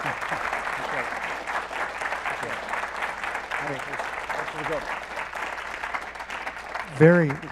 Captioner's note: applause